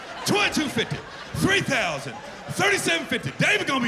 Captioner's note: laughter